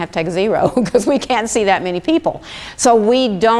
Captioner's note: laughs